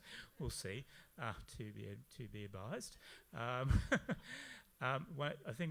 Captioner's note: laughs